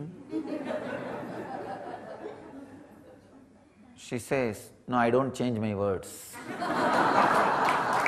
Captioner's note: audience laughs